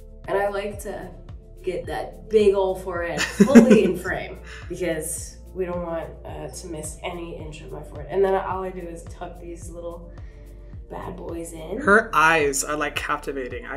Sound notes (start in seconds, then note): 0.0 gentle music; 3.2 Hyram laughing